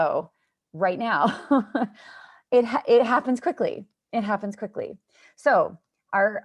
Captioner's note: laughter